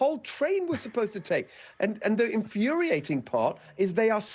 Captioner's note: laughter